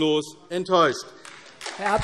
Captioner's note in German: Beifall AfD